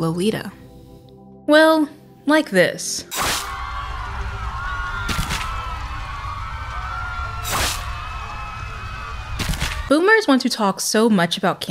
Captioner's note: Hellfire screams